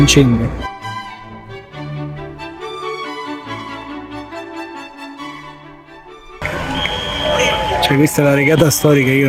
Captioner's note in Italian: Applauso